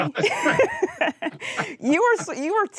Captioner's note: laughing